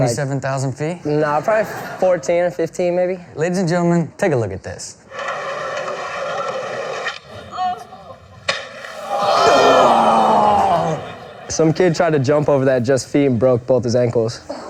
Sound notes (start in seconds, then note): 8.8 oohing